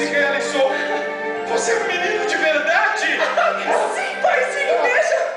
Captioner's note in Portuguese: risada